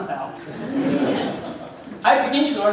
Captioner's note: audience laughing